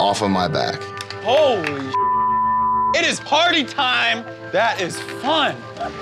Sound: beep

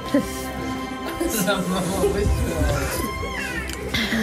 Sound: slurps

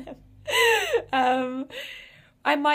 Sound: laughs

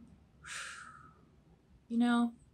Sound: exhales

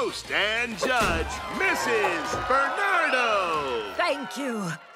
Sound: crowd cheers

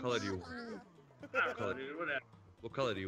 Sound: laugh

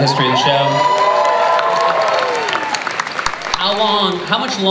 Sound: cheering, applause

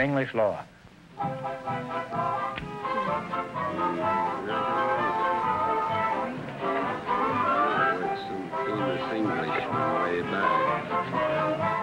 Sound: couples whispering

